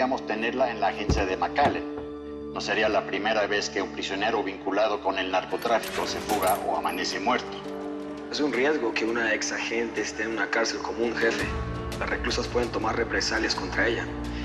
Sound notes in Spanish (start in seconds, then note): none